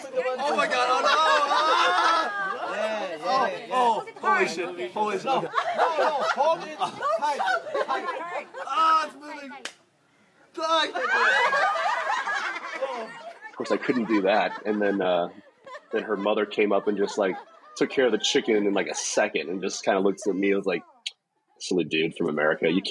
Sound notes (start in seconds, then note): 13.2 relatives laugh in the background